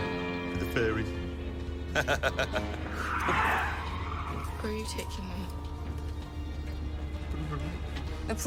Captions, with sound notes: WITH THE FAIRIES. ( laughs ) - ( tires screeching ) - OOH. WHERE ARE YOU TAKING ME? BROOOOM.